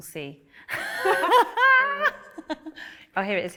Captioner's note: laughter